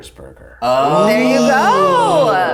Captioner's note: all oooh